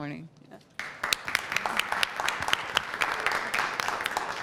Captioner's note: applause